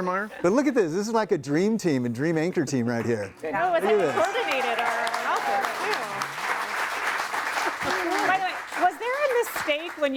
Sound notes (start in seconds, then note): 6.6 audience applauding